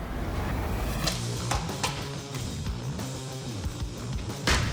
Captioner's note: chopping sound